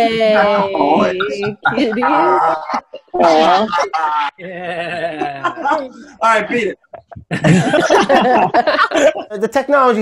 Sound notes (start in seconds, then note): 2.3 laughing; 3.2 imitating monster growling; 7.6 laughing